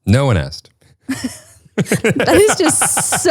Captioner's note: both laugh